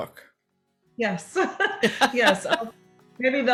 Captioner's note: laughs